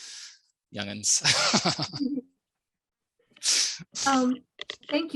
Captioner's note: laughing